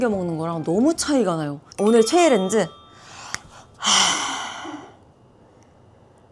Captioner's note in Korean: 한숨